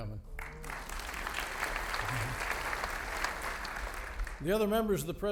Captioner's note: audience applauding